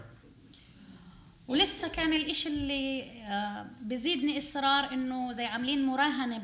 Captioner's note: speaking arabic